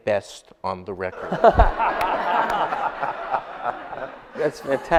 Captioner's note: audience laughs